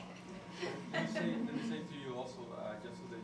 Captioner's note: laughter